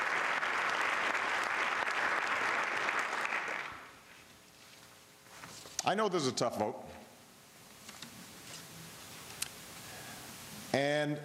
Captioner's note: applause